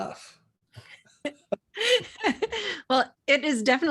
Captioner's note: both laughing